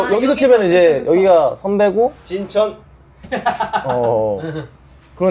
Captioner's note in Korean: 웃음